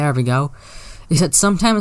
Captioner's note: sucks in air